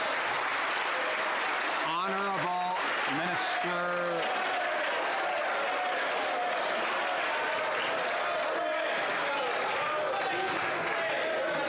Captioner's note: some Applause